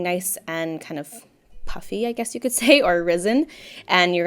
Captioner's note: laughs